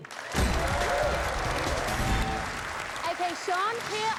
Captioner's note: cheers and applause